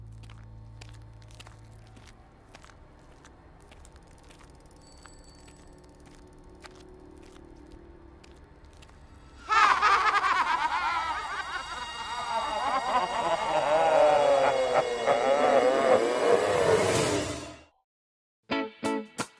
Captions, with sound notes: [evil monster laugh] HAHAHAHAHAHA